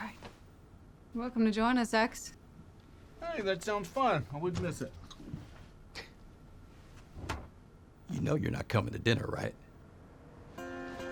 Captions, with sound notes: YOU'RE WELCOME TO JOIN US, EX. HEY, THAT SOUNDS FUN. I WOULDN'T MISS IT. [SCOFFS, DOOR CLOSES] YOU KNOW YOU'RE NOT COMIN' TO DINNER, RIGHT?